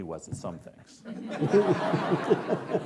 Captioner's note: laughing